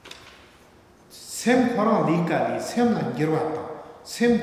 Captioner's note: speaking tibetan